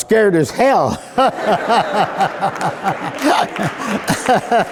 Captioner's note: laughing